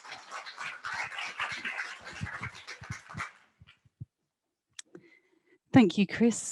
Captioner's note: applause